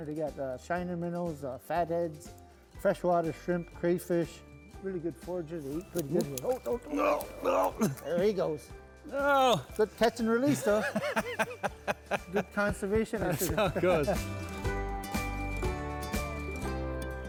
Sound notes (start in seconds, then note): 10.4 laughs; 14.6 bright music